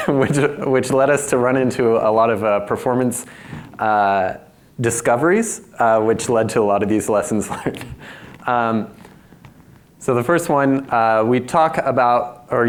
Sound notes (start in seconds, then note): 0.0 laughs; 9.3 chuckles